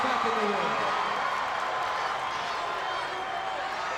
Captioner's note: crowd cheering